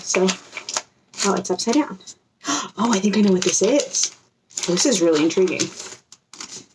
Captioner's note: gasps